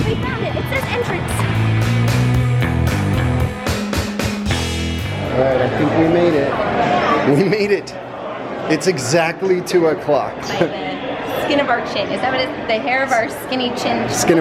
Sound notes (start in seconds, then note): 1.6 driving surf-rock music; 7.2 laughs